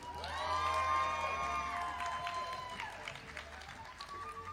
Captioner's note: audience applauding